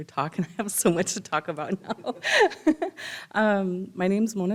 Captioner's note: laughs